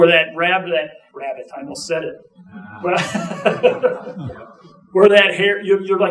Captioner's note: chuckling